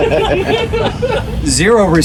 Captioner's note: members of the audience laughing